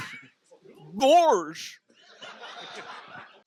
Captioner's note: in the voice of Goofy